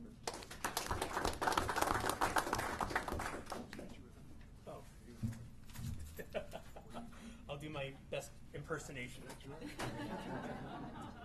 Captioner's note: applause